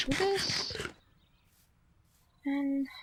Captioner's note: chomp chomp chomp